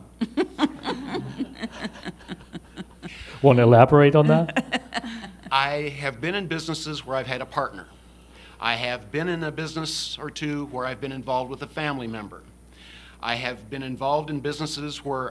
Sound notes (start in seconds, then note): 0.2 laughter; 4.4 laughter